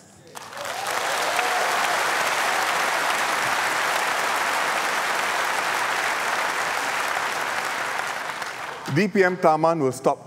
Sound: applause

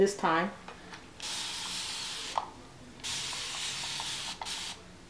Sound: water spraying

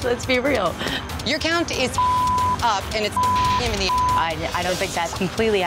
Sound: beep

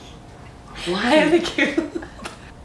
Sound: lauging

